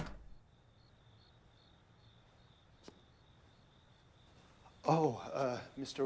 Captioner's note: insects buzzing